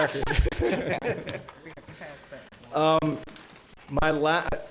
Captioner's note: chuckling